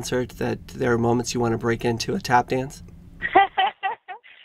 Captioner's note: laughter